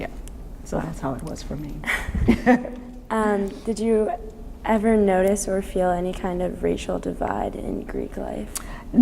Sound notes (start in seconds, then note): 1.9 laughs